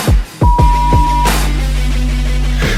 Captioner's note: upbeat music; beep